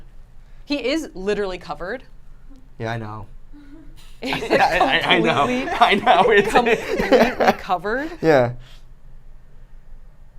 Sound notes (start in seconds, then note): 3.6 laughs